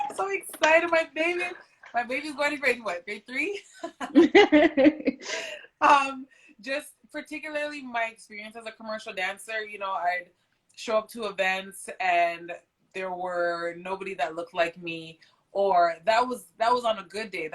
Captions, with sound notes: - So excited my baby. My baby is going to grade what? Grade three. (both laugh) Just particularly my experience as a commercial dancer. You know, I show up to events and there were nobody that looked like me or that was on a good day.